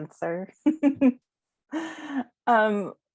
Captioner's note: laughter